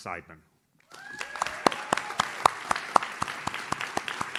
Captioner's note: audience claps